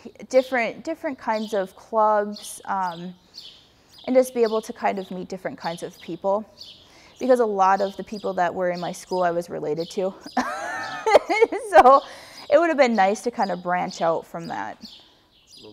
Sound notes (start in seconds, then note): 10.2 laughs